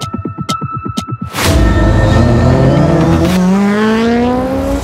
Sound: car engine revving

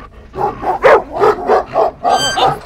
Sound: dog growls

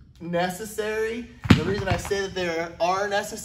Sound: dumbbells crushing

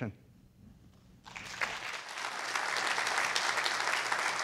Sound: audience applauds

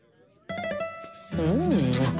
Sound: smooch

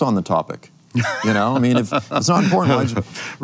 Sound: laughs

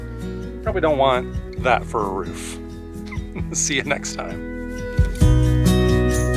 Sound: laughs

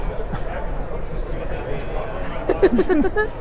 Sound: both laugh

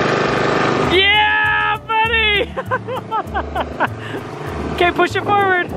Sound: laughs

